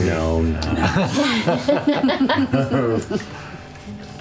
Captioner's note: laughter